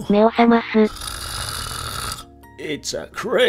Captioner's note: snoring